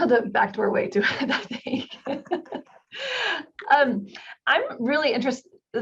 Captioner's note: participants laughing